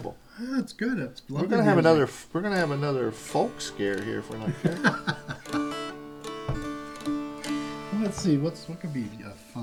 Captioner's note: laughter